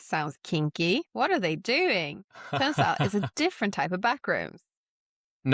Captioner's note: chuckles